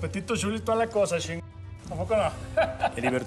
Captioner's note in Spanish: risas